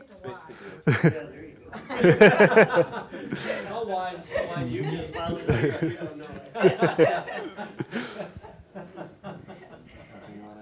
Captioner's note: audience laughing